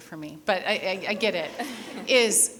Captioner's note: people laughing